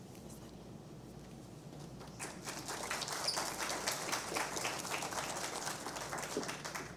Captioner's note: applause